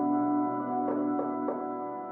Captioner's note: door knock